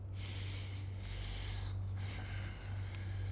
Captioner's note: inhales